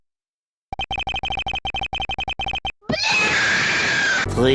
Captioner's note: russian BLYAAAAAAA kid scream